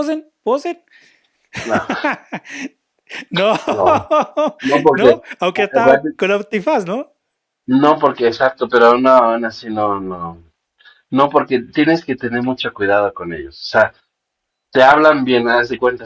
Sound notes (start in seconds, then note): 3.1 laughs